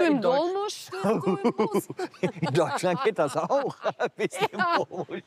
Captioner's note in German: lacht